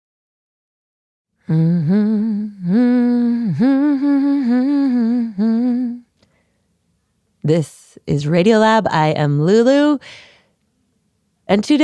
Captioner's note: humming